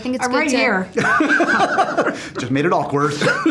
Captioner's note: laughs